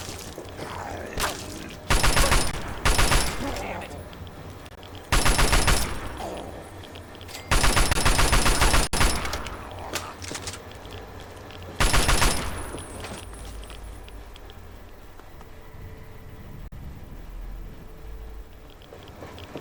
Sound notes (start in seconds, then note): 1.9 gunfire; 9.6 horrifying animal growls